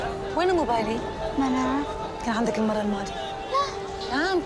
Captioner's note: foreign language